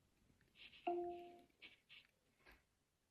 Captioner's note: device chimes